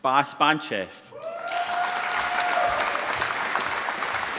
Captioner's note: applause